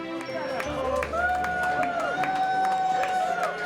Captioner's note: cheering